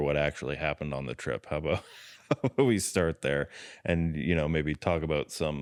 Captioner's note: laughs